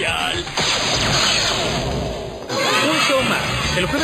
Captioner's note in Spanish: cae rayo y niños gritan